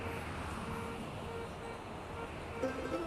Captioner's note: car horns honking